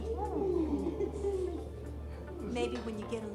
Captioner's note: all laughing